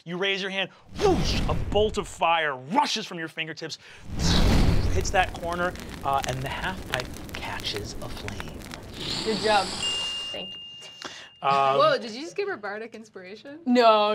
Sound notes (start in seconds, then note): 8.7 fire crackles; 9.8 wink dings